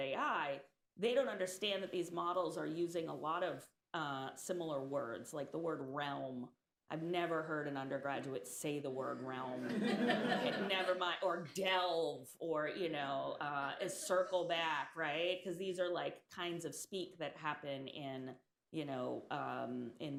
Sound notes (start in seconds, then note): 9.6 laughter